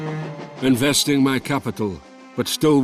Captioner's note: Voz en off